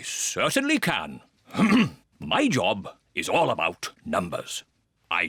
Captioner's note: clears throat